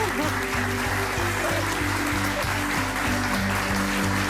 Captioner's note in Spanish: risas